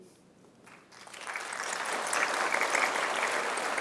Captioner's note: applause